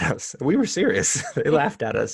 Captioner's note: laughter